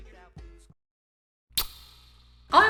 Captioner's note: reverbed kiss